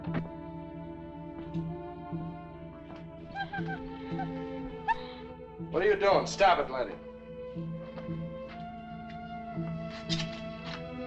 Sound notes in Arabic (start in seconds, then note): 0.6 تستمر الموسيقى التأملية; 3.3 كلب يئن